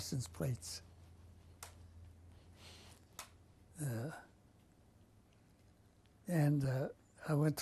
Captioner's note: pauses for 6 seconds